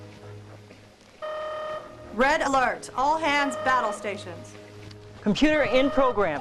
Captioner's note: klaxon